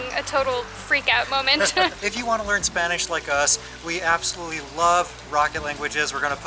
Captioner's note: laughter